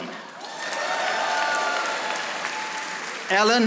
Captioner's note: audience applauding